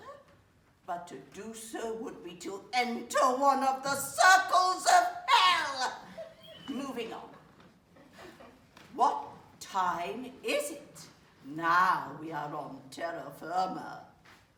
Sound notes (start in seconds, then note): 8.0 audience chuckles